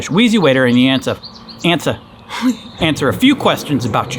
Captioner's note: laughs